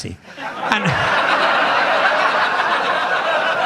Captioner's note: audience laughs